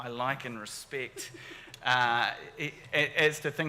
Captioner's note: giggles